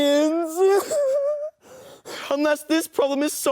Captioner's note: sobs